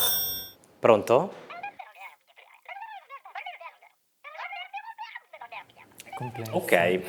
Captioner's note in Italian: vociare indistinto